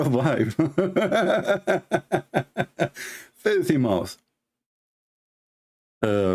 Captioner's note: Ketawa